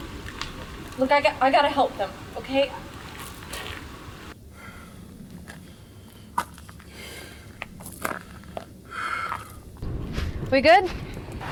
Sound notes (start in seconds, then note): 4.4 heavy breathing from the wounds